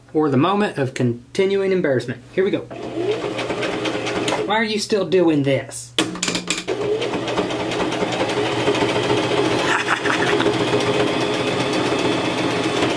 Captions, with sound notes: or the moment of continuing embarrassment. Here we go. (sewing machine) Why are you still doin' this? (sewing machine) (chuckles)